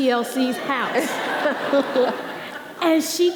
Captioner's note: audience laughing